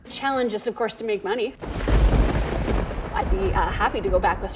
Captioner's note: thunder booming